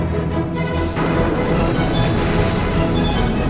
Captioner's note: explosion